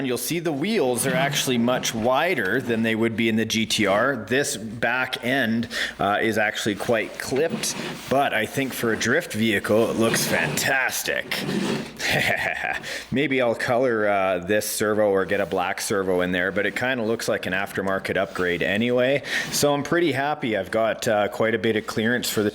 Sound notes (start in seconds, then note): 11.7 laughs